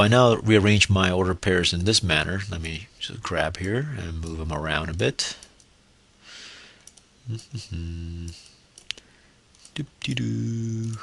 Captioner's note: annoying humming